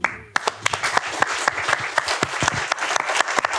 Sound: applause

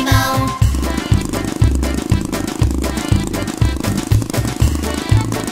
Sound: car engine purring; polka music

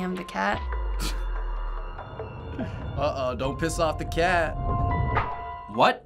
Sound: scoffs

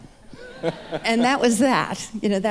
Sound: laughs

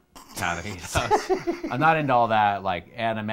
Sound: laughs

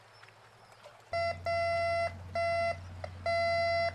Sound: metal detector beeps

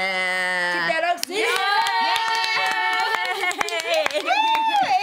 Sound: group cheering and clapping

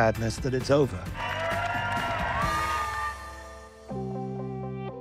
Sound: cheers, applause

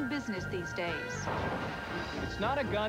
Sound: truck abruptly stops

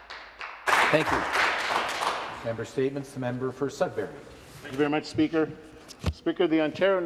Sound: some Applause

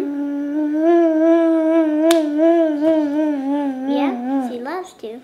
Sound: humming

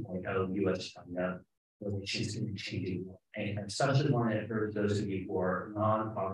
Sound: speaking faintly

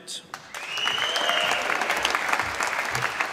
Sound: applause

